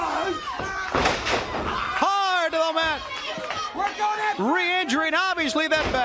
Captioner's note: crowd cheering